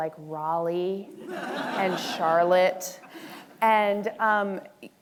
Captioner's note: audience laughing